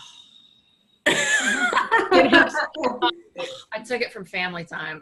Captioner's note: laughing